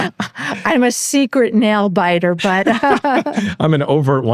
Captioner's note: laughs